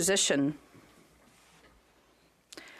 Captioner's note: speaking French